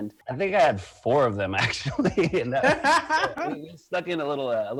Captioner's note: laughs